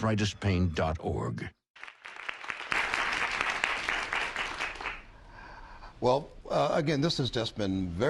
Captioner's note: applause